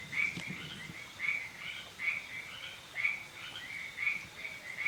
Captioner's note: nocturnal animal sounds